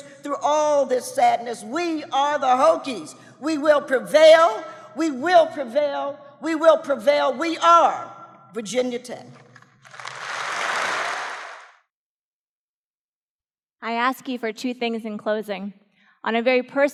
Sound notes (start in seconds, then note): 9.8 audience Applause